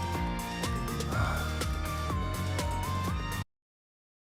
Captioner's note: sigh